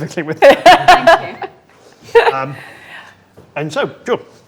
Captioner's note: laughing drowns out speaker